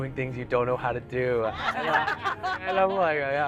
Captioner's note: everyone laughing